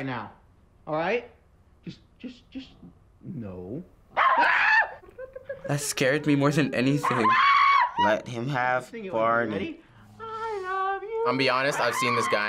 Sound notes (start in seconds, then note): 4.1 dog barking; 4.2 man screams